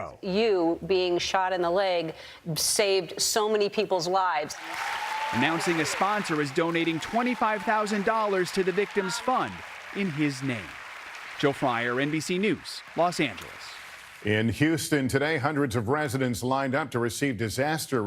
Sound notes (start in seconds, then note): 8.2 cheers